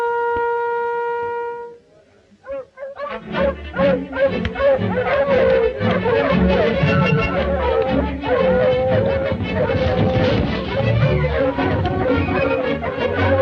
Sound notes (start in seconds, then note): 3.0 dogs barking; 3.1 dramatic orchestral music